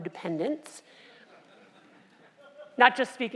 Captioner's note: laugh